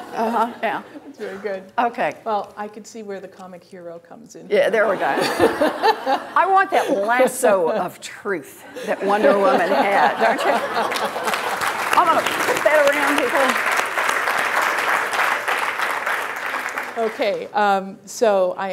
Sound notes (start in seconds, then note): 10.5 applause; 14.2 applause